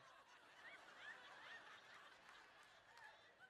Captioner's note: laughter